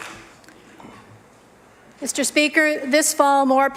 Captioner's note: applause